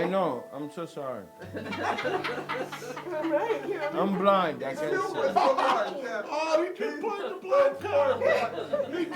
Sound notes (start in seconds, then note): 1.5 laughing